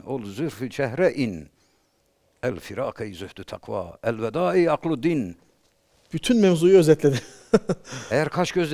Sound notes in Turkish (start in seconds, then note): 7.1 kahkaha